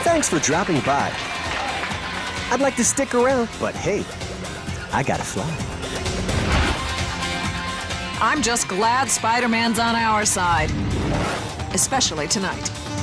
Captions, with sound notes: Thanks for dropping by. I'd like to stick around, but hey, I gotta fly. (air whooshing) - I'm just glad Spider-Man's on our side, (air whooshing) especially tonight.